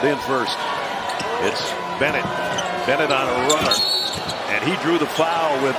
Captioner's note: whistle